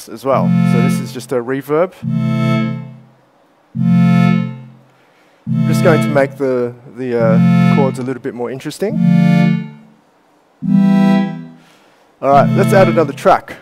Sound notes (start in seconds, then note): 2.4 reverb; 9.2 playing chords